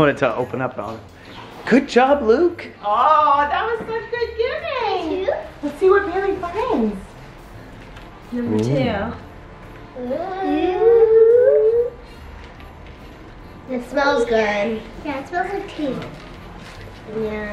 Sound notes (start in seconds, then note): 10.1 kids excited